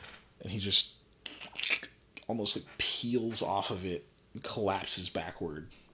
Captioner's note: gory noise